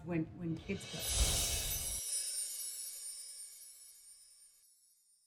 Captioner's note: screen whooshing